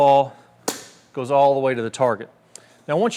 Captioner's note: tee clinks